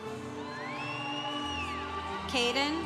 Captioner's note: congregation cheering